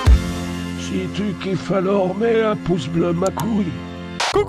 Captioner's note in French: clic